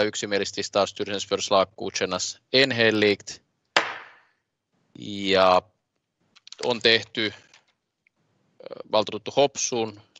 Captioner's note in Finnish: nuijan kopautus